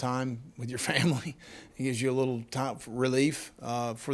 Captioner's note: laughing